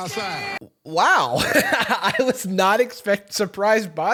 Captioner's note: laughs